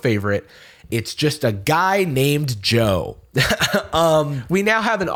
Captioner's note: chuckles